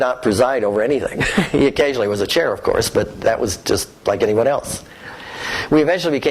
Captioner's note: laughter